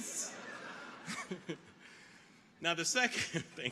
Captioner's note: audience laughing